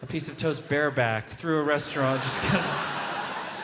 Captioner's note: audience laughing; laughs